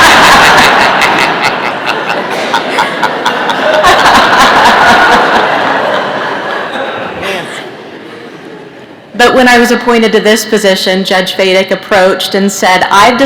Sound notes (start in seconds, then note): 4.0 laughter